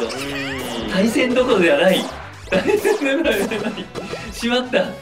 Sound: laughs

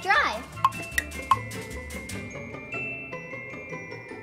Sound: tick tock sound

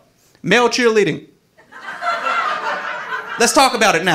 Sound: audience laughing

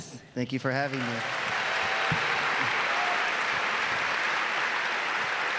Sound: audience clapping

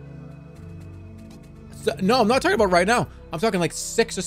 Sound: none

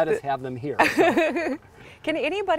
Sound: laughing

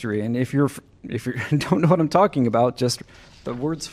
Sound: laughter

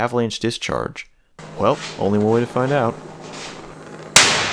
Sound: bang

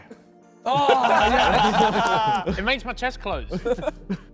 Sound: men shouting

